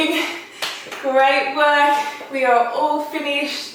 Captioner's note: clapping